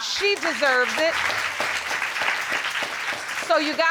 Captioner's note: applause